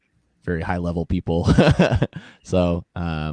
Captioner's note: laugh